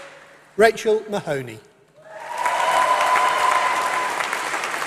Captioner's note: applause